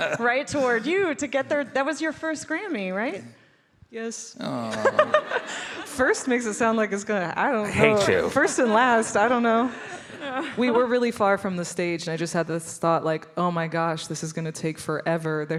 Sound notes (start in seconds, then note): 4.6 all laughing